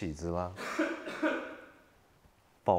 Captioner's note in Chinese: 咳嗽聲